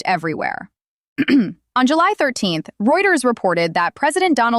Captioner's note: clears throat